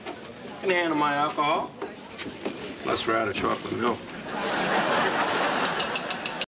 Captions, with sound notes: I can handle my alcohol. Plus we're out of chocolate milk. (glass clinking)